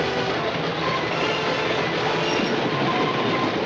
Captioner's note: train rumbling